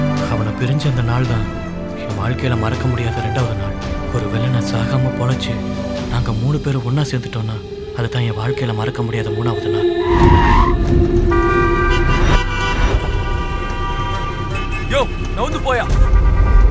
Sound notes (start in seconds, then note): 9.2 brakes squeal; 9.8 honking